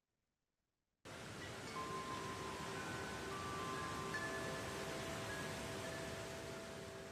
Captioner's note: wind whooshing softly; wind chimes ringing